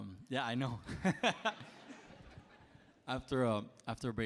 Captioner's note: laughs